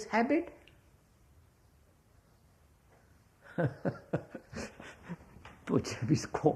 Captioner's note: laughs